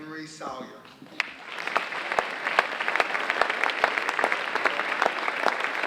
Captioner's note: audience applauding